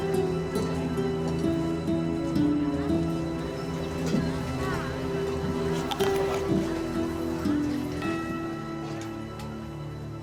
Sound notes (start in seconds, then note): none